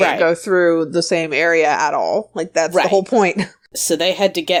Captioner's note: none